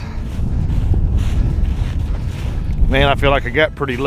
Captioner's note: snow crunching